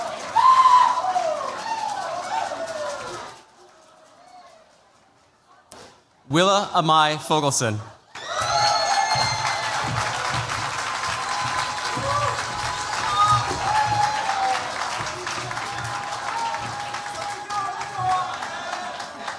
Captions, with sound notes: Willa Amai Fogelson. [CHEERS, APPLAUSE]